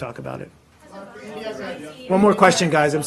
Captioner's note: reporters chattering